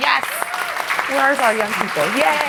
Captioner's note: applause